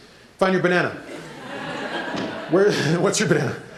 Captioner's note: laughter